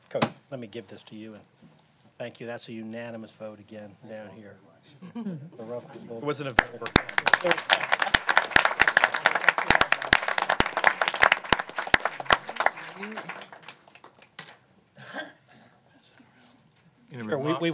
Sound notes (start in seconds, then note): 9.7 applause